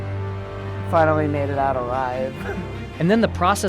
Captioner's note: chuckles